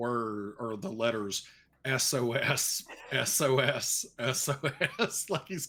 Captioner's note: laughing